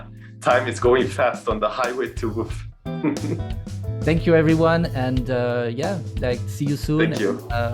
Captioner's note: laughs